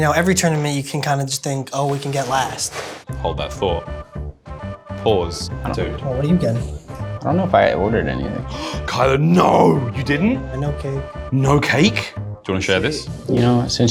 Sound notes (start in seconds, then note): 8.5 gasps